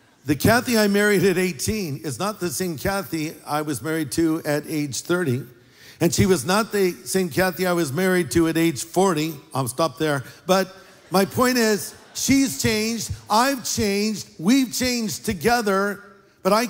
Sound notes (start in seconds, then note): 10.7 laughter